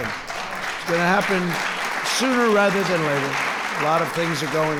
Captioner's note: applause